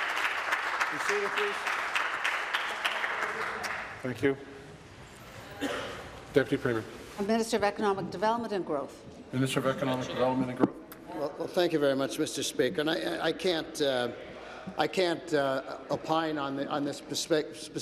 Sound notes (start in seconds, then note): 0.0 applause